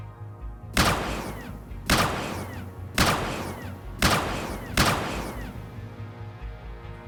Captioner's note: laser firing